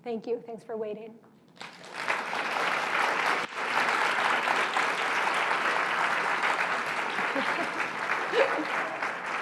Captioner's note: applause